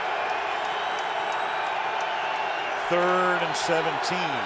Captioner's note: cheering